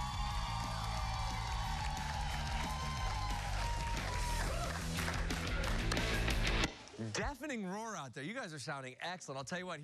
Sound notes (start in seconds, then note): 0.0 cheers and applause